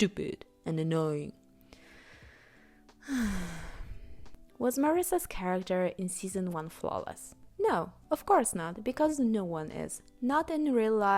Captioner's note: sigh